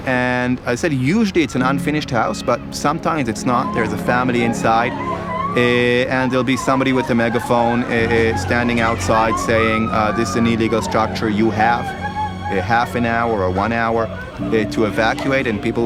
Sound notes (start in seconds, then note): 5.0 crying